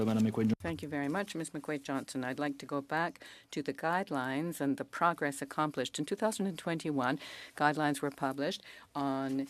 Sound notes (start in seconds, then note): 4.3 speaking French